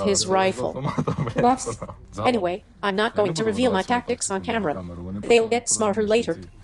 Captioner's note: laughs